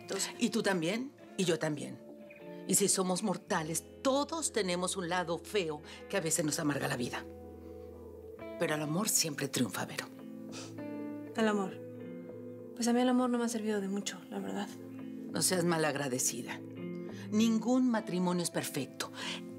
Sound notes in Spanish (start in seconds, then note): none